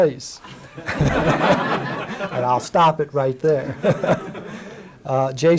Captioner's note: laughter